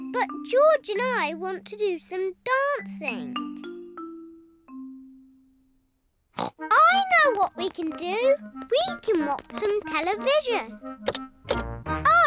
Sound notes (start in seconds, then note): 6.3 snorts